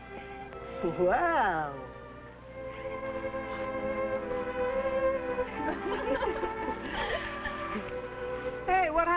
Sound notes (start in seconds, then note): 2.7 gentle music; 5.5 women laughing